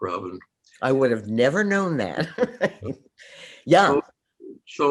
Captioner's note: laughs